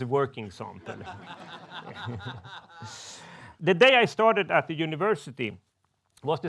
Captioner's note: men laughs